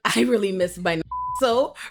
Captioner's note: beep